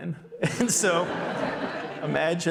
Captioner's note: audience laughing